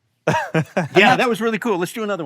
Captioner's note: laughs